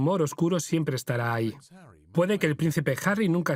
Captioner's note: voiceover